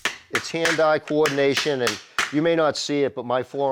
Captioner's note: hammering